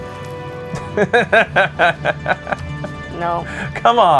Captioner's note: laughs